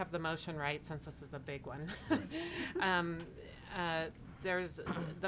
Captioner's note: chuckles